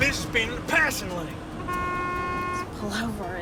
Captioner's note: honking horn